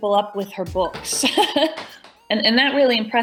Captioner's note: laughing